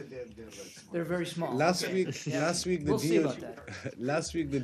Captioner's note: laughter